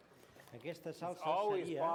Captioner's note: non-english speech